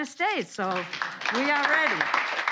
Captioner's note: applause